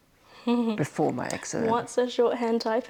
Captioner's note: chuckles